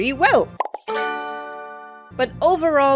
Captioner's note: pop, pop, bling